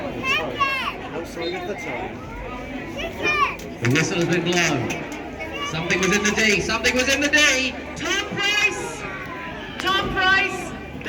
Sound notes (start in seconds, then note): 1.0 whistle blows